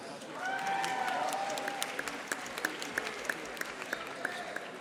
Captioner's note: audience applauding